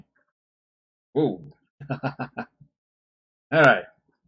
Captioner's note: giggles delightedly; chuckles